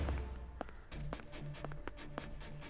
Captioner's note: Footsteps